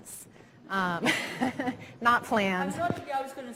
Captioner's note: all laughing